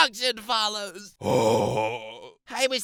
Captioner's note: sigh